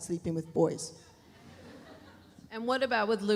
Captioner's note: audience laughs